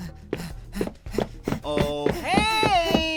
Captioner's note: panicked panting